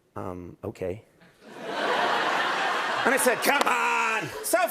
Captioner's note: laughter